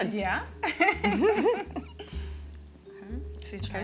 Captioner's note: both giggling